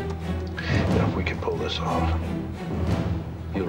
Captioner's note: sighs